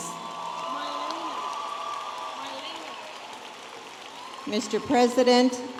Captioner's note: audience applauding and cheering